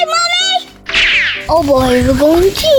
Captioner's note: quick zipping